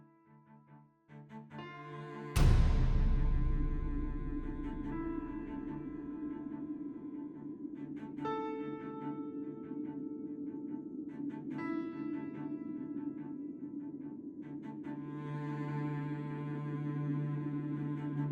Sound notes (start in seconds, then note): 2.4 gunshot blasting; 5.4 tense orchestral music continues